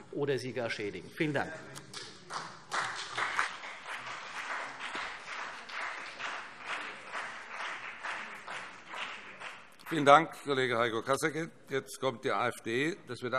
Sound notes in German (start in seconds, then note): 2.2 Beifall CDU und BÜNDNIS 90/DIE GRÜNEN